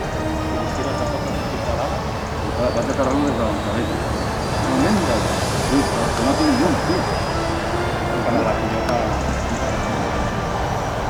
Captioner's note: vulcan-language exchanges continue in the background